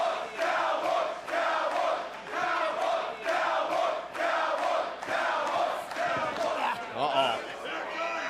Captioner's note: cheers & applause; fans chanting